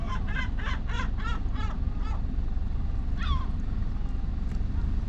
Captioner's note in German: Möwen kreischen